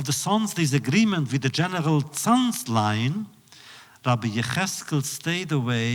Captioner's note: none